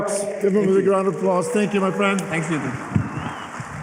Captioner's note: applause